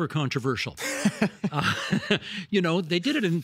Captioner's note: both laughing